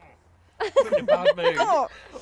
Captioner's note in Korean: 웃음